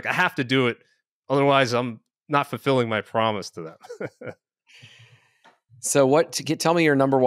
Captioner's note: chuckles